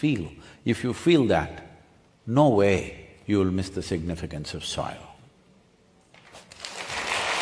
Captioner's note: applause